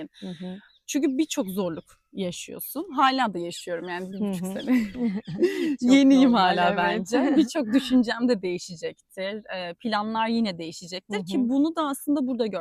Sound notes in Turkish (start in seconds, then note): 4.4 kahkaha